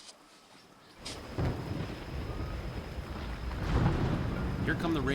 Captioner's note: thunder rumbling